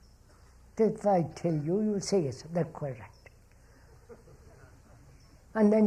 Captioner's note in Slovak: smiech